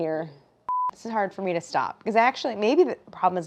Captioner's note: beep